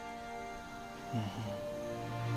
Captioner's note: coyote Howling; groans